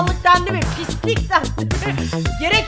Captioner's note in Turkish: gülerek